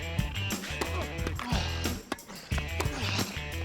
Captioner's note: grunting repeatedly